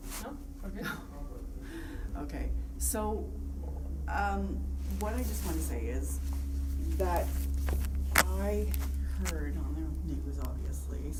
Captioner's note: laughs